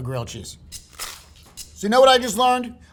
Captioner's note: upbeat music; sandwich rustling